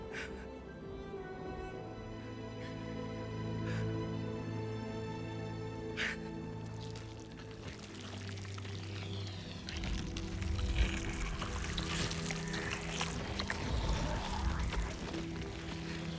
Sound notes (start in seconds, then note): none